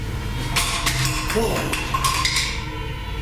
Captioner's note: crashing sound